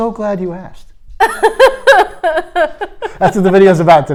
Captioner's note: laughing